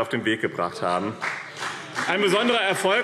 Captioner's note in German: Beifall